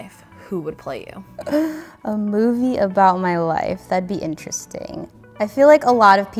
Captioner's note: laughs